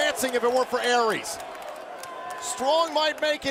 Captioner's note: crowd cheering